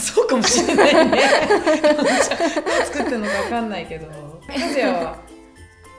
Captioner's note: laughs